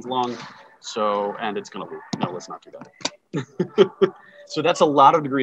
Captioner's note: laughing